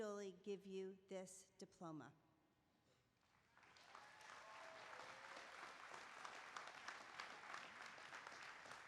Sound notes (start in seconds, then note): 3.2 applause